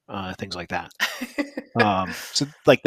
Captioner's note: laughter